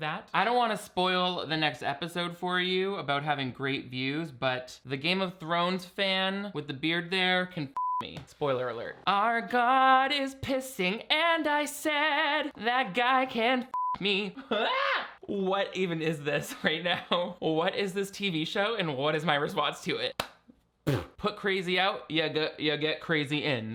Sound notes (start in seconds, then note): 7.8 beeping; 13.7 beeping; 14.5 screaming; 20.9 clapping and blowing a raspberry